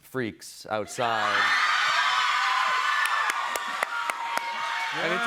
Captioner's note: cheers and applause